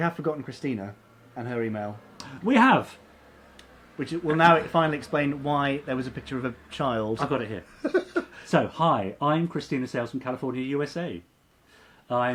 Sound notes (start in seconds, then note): 7.6 laughing